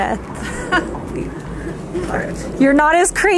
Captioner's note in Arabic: تضحك